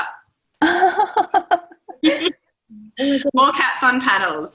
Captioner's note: all laughing